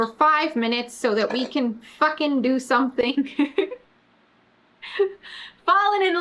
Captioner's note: laughs